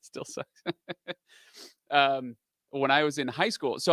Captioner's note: laughs